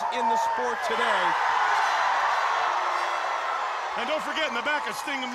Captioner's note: crowd cheering